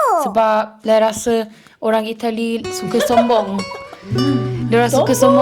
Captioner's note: laugh